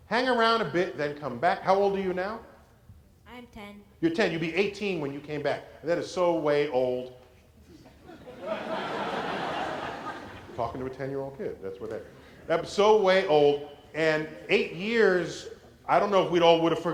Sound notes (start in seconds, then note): 7.6 laughter